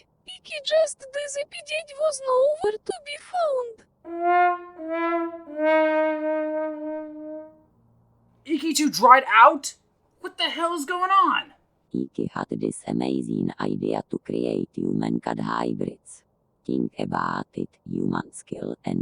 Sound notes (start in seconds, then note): 4.0 fail trumpet